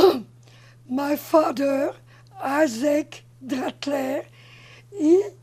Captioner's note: clears throat